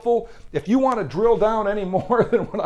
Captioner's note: laughs